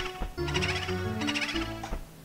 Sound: boo sfx

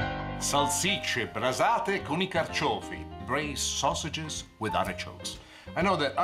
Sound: foreign language

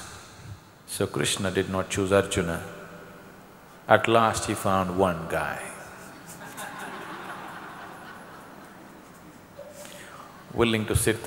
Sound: laughter

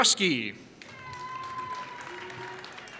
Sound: applause

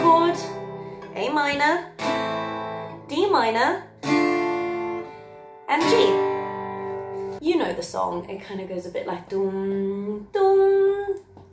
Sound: humming

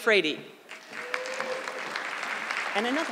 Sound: audience clapping

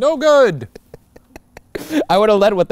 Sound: laughing

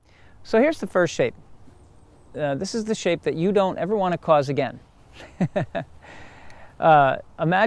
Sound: laughs

